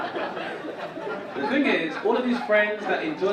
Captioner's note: audience laugh